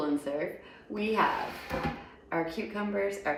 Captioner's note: dish sliding